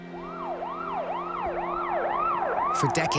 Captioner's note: siren wailing